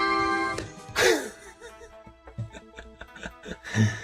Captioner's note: laughing